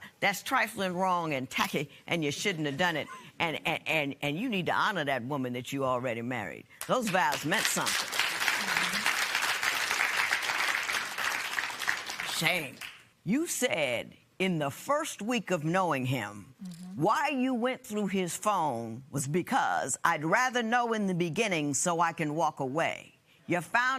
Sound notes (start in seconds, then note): 7.0 applause